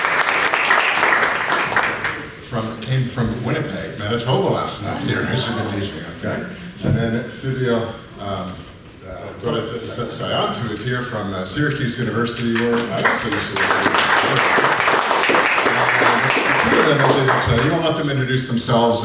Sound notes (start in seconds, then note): 12.4 applause